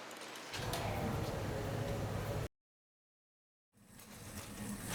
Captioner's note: machinery humming